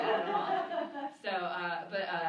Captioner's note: laughter